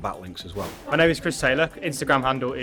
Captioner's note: abrupt swooshing